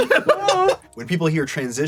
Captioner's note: laughs